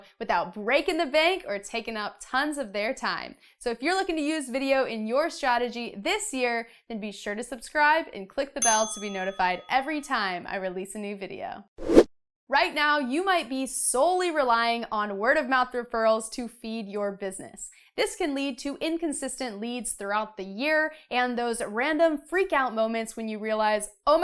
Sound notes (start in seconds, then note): 8.6 bell dings; 11.8 air whooshes